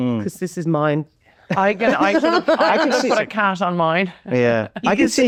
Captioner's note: laughing